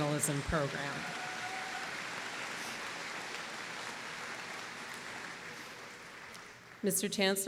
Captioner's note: applause